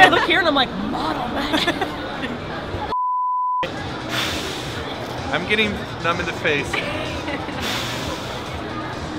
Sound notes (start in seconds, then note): 1.2 girls laugh; 2.9 beep; 6.7 laughs